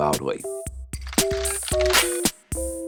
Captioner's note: cracks